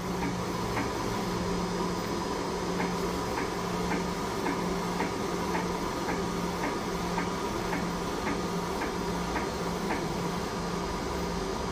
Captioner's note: printer machine noise